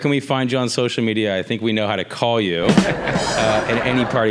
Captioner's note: background laughter